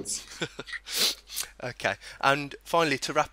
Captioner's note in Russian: оба смеются